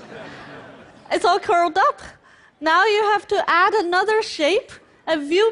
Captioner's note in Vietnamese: Cười vô mặt